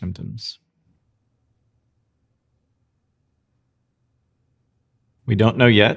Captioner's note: silence